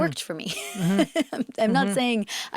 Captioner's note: Zoe laughs